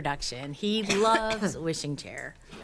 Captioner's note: attendee coughing